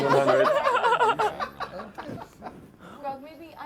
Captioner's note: laughter